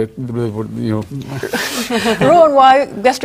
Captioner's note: laughter